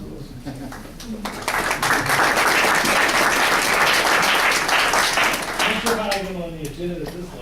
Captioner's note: applause